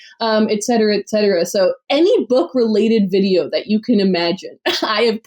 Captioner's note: laughs